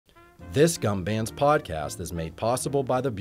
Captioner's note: voiceover